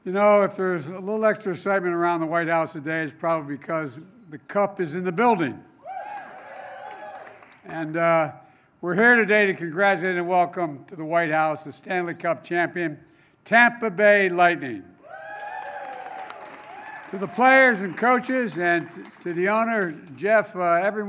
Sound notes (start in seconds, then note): 6.0 applause; 15.1 applause